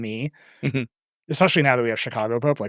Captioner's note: chuckles